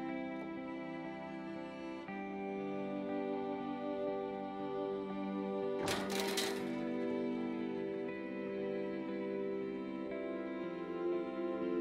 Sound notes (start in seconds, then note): 5.8 clanging